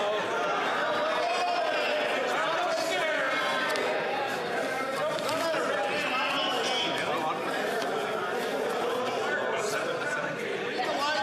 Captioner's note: yelling